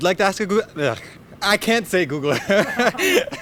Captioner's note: laughs